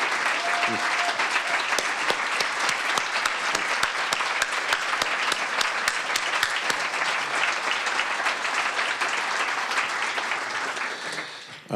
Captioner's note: applause